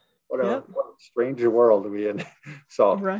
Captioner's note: laughing